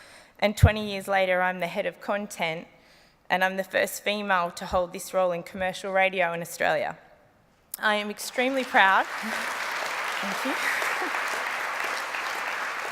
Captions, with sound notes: and 20 years later I'm the head of content, and I'm the first female to hold this role in commercial radio in Australia. - I am extremely proud... - (APPLAUSE) Thank you. (LAUGHS)